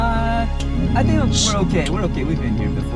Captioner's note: Wendy growls